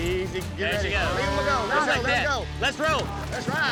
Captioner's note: overlapping chatter